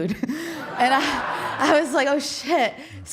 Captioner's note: audience laughing